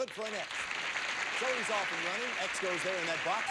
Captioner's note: audience applauding